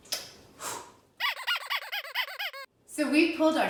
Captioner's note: toy squeaking